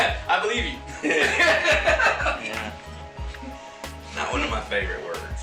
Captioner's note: continued laughing; laughing